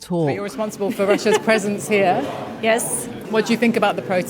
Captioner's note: laughs